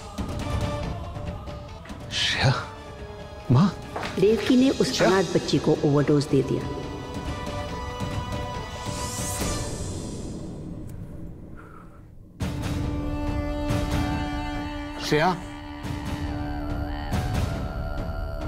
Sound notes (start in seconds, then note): 11.4 Breathing